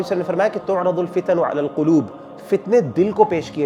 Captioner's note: Arabic